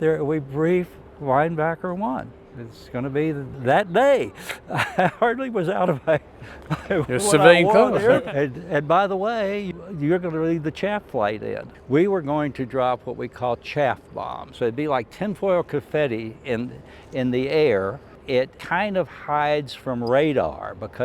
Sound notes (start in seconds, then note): 6.8 laughs; 7.9 speaks faintly